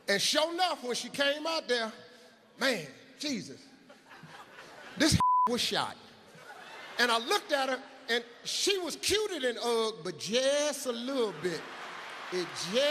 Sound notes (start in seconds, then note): 5.1 beep